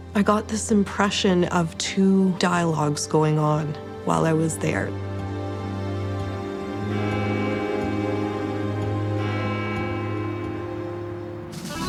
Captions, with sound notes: I got this impression of two dialogues going on while I was there. (gentle music continues) (bell ringing)